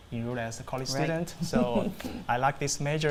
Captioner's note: laughs